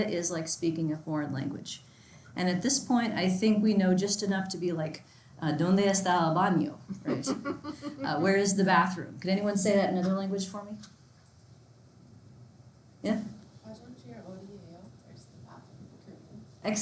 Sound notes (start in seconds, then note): 5.4 in foreign language; 7.0 laughs loudly; 14.0 in foreign language